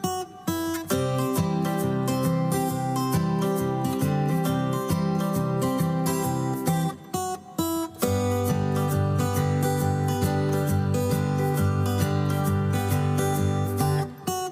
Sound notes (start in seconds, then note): none